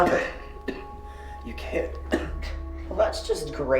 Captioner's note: coughing